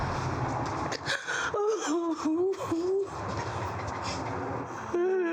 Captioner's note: sobbing